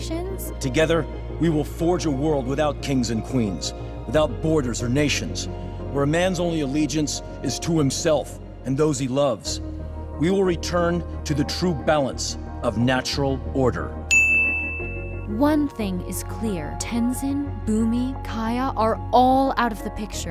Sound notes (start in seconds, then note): 14.1 dinging